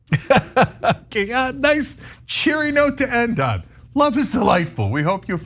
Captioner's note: laugh